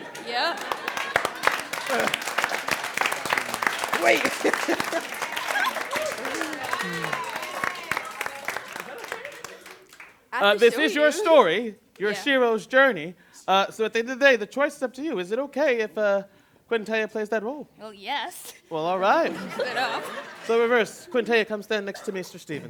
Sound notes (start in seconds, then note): 1.5 applause, laughter; 4.6 laughs; 5.3 applause and laughter die down; 18.9 laughter